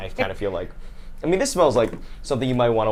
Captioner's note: sniffs